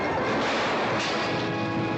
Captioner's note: glass exploding